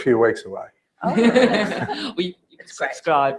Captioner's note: laugh